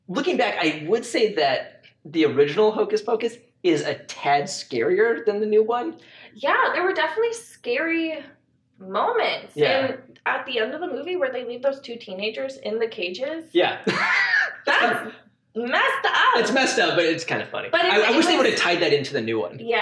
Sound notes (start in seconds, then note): 13.5 laughs